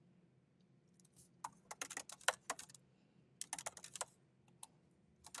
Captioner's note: keyboard clacking